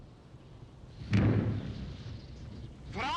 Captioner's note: exploding